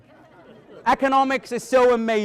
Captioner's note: audience laughing